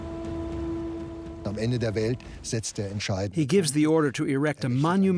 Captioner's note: speaking German